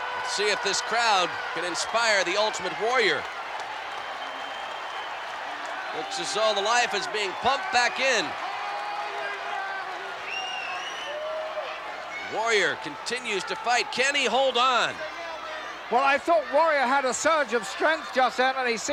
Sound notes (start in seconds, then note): 3.4 applause; 8.5 applause